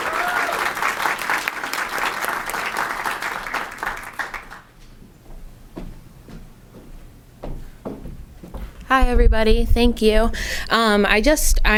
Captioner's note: applause